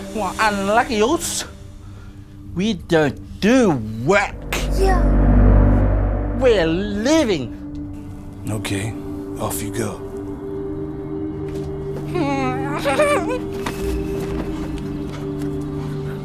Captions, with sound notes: - Well, unluggy, uce. We don't do work. - Yeah. - We're leaving. - OK. Off you go. - (WHIMPERS) (TENSE MUSIC)